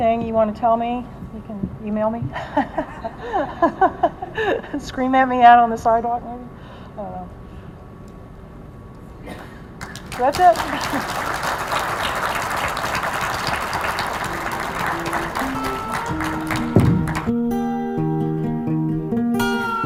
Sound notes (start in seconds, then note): 11.3 audience applauding; 13.9 gentle downbeat music